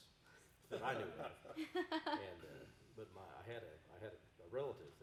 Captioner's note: group chuckling